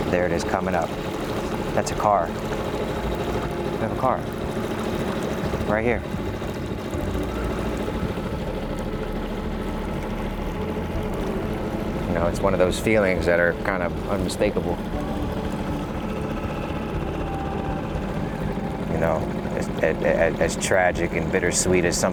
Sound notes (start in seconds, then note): 6.3 motor droning; 6.3 suspenseful music continues